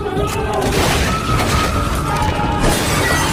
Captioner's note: smash; screaming